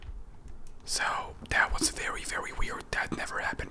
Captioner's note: whispers